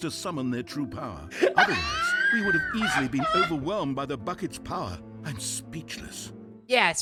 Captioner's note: laughs